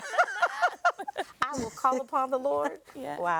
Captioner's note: people laughing